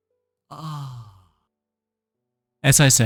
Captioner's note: moaning